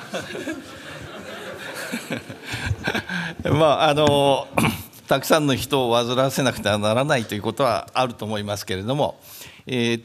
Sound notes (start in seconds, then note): 0.0 laughter; 3.3 speaking japanese